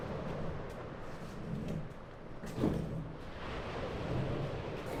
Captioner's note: waves crashing